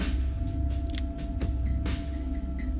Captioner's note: cocking of gun